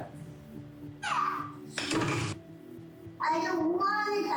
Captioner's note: object knocks screen